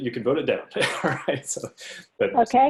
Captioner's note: laughs